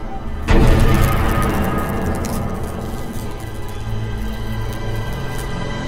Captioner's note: dramatic music; electricity buzzing